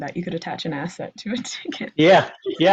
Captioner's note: laughs